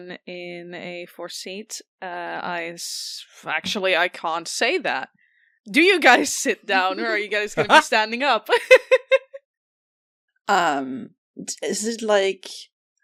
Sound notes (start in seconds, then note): 8.5 laughter